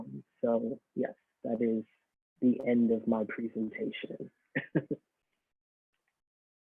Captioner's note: laughs